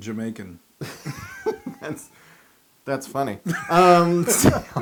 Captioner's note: laugh